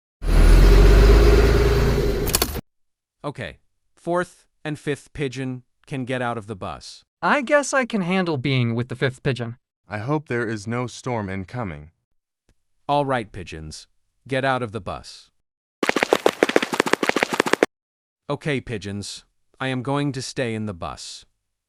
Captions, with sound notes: [Bus pulls in and engine stops] Okay, fourth and fifth pigeon can get out of the bus! I guess I can handle being with the fifth pigeon. I hope there is no storm incoming! Alright pigeons. Get out of the bus. [Footsteps] Okay pigeons. I am going to stay in the bus.